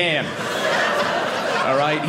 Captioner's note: audience laughing